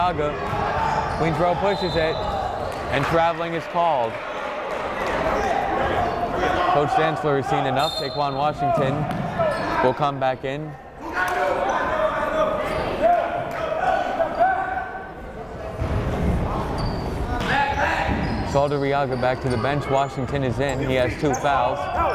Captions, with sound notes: Saldarriaga, Queensborough pushes it. And traveling is called. (chattering) Coach Dantzler has seen enough, Taequann Washington will come back in. (yelling) Saldarriaga back to bench, Washington is in he has two fouls